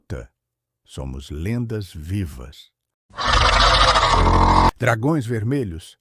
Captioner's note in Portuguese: Rugído de dragão